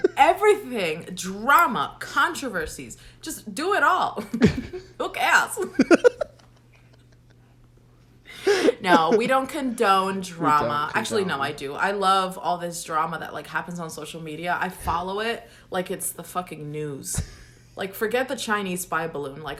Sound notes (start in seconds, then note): 0.0 laughs; 5.6 both laugh